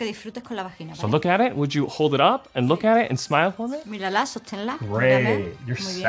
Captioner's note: speaks in english